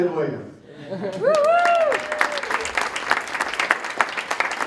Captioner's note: applause